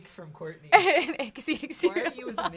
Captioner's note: laughing